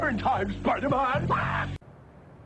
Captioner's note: Green Goblin laughs